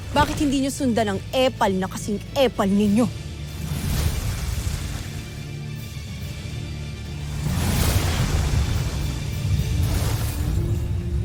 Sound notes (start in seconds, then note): 3.5 infernal whoosh-crackle; 5.3 epic music playing; 7.2 sparkling whoosh; 8.5 music fades